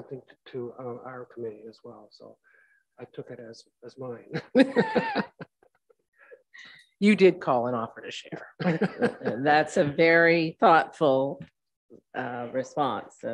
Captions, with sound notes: to our committee as well. So I took it as mine. (group laughing) - You did call an offer to share, that's a very thoughtful response